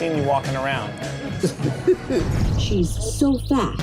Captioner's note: chuckles